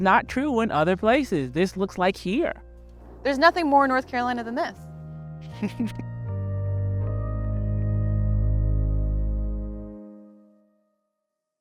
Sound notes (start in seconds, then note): 5.5 chuckles; 7.9 gentle organ music